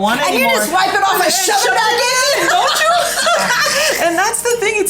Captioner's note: both laugh